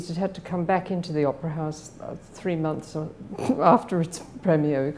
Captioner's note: laughs